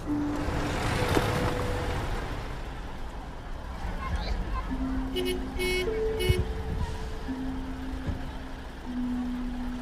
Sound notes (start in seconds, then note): 4.0 horn honks